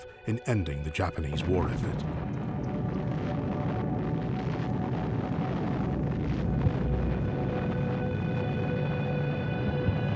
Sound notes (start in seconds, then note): 2.2 dramatic music; 2.8 explosion roars